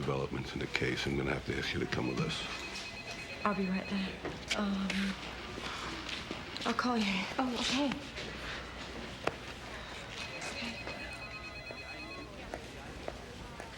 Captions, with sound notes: There've been some new developments in the case. I'm gonna have to ask you to come with us. (phone rings) - I'll be right there. I'll call you. - Oh, okay. (phones ring)